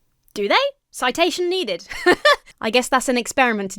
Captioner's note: chuckles